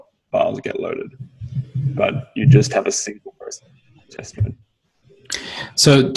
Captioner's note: signal breaks up